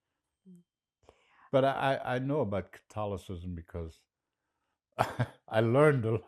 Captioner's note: laughing